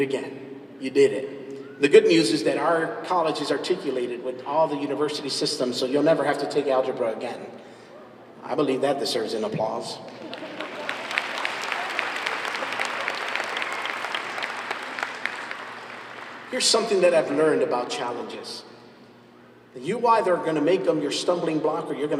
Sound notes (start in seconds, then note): 10.0 laughs, applause